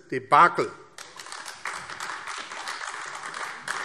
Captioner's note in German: Beifall AfD